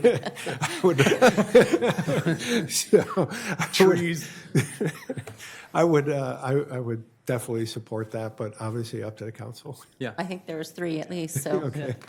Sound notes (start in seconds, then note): 7.1 laughter; 11.4 laughter